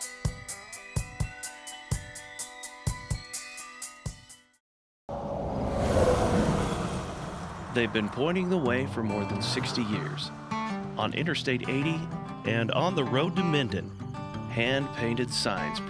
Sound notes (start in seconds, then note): 0.1 upbeat music; 6.9 engine roaring